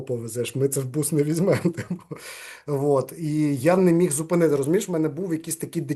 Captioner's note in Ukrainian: сміється